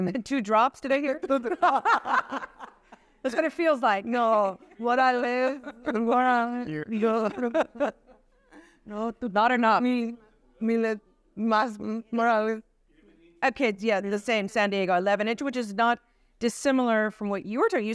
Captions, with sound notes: Two drops, did I hear? or-- [laughter] That's what it feels like. No, what I live, [laughs] Not enough. The same, San Diego, 11 inches, which is not dissimilar from what you were talking.